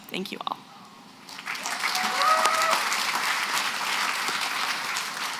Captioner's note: applause